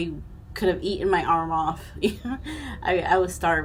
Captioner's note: chuckling